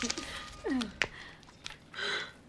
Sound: women laughing

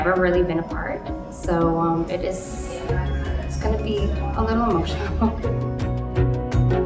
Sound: giggles

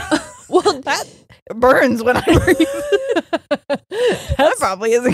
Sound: both laughing

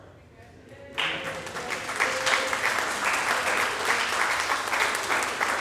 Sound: audience applauding

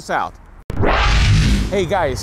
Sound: electronic whirring

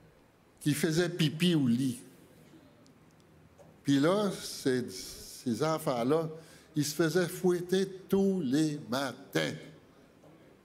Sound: speaking French

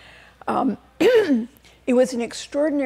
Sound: clears throat

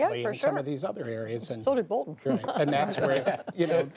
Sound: laughter

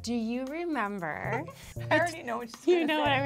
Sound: giggles

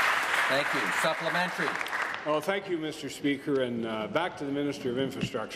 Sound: applause

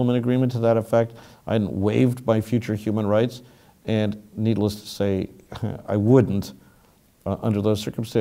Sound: laugh

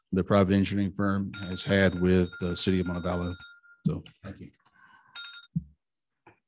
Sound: alarm sounds

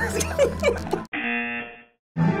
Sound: buzzer

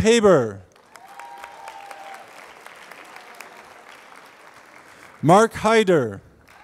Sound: applause

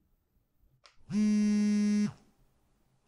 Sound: phone vibrates

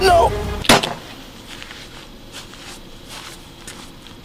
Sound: gun shot firing

